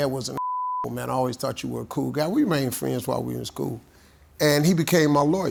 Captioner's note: beeps